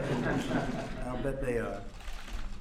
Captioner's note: laughter